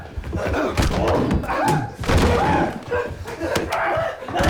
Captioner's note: screaming and Grunting